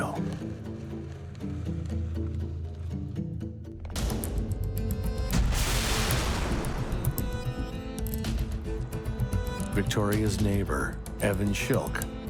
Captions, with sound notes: (intense music) (thunderous explosion) (glass crashing) Victoria's neighbor, Evan Schielke,